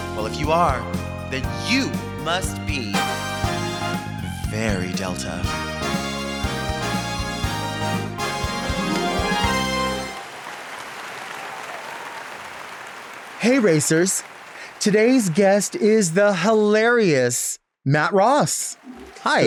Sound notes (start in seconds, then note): 5.9 upbeat bright music; 10.4 audience clapping